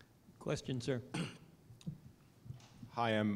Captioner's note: cough